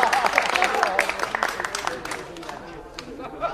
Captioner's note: applause